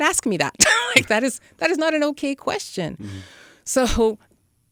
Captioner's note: laughs